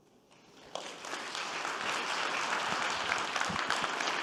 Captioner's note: audience clapping